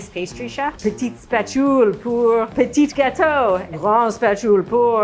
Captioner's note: speaking French